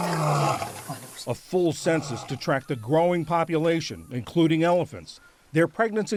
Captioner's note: voice-over